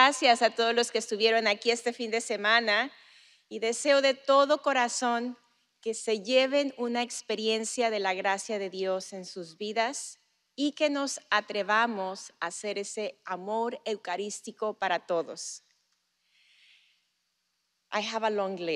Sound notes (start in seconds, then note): 6.6 speaking spanish